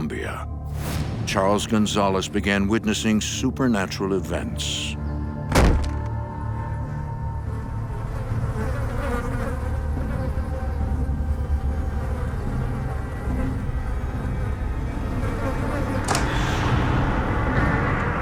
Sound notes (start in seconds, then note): 5.5 loud thump; 7.5 flies buzzing